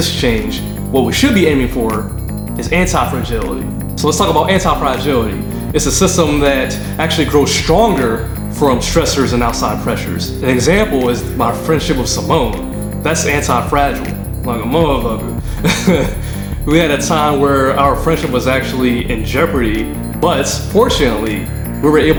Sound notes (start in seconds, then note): 15.5 laughing